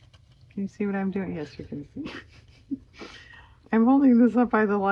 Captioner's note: laughs